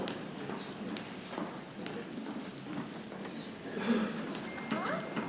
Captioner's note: people chattering softly